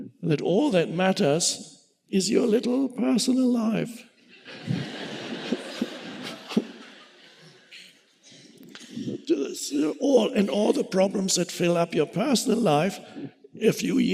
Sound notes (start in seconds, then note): 4.3 audience laughing